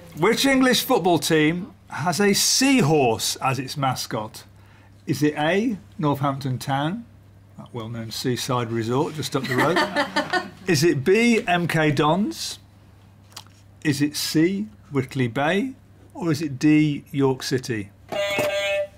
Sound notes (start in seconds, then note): 9.4 laughter; 18.1 beep beep